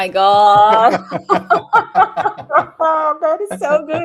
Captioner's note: laughter